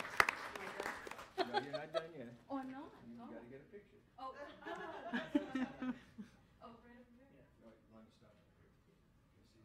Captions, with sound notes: (audience laughs) - You're not done yet. - Oh, I'm not? - You gotta get a picture. (audience laughs)